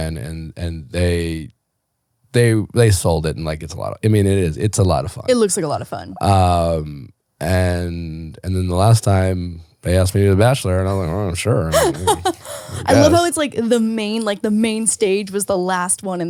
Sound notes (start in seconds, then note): 11.7 laughing